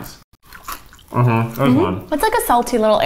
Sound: both crunching

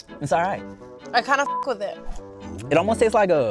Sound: beep

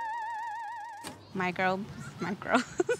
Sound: laughing

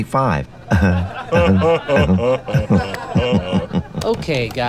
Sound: both laugh

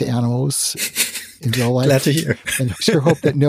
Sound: giggles

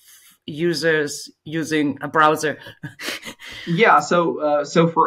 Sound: chuckles

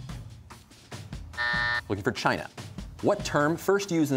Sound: buzzer

